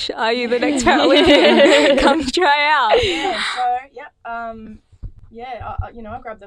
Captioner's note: laughing